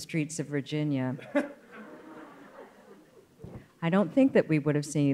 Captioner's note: scattered laughing